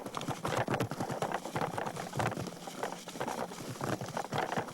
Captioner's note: lava bubbling